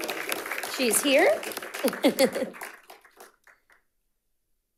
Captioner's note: audience applauding and cheering; chuckles